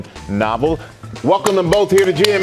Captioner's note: applause